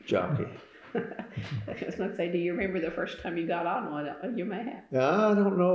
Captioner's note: laughter